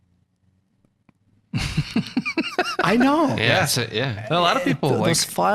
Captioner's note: all laughing